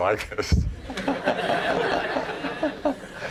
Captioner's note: laughing